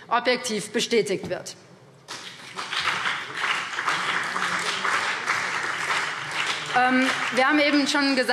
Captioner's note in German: Beifall CDU und BÜNDNIS 90/DIE GRÜNEN